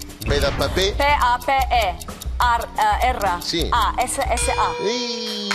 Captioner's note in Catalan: gong